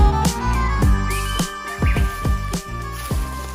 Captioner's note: sounds of birds chirping; leaves crunching